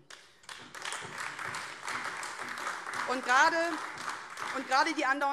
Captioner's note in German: Beifall AfD